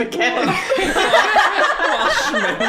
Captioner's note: group laughter